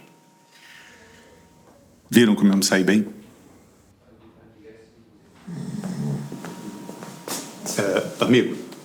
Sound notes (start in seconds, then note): 5.4 snoring